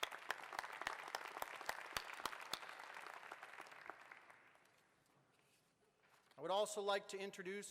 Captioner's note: applause